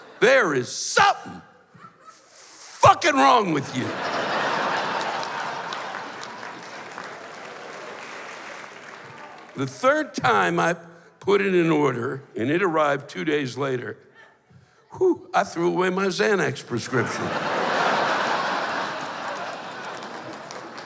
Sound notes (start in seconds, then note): 16.8 laughter